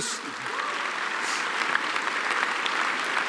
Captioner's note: applause